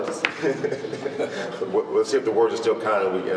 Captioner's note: chuckling